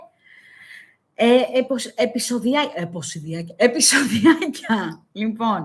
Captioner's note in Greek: γέλια